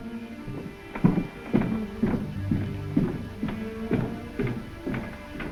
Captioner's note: footsteps descending